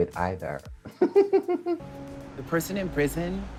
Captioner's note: giggles